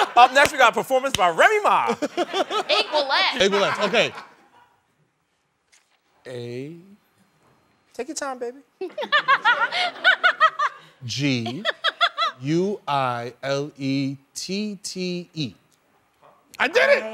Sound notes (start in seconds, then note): 8.8 laughter